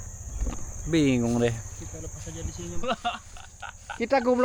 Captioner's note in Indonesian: tertawa